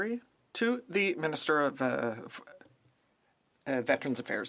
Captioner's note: speaking French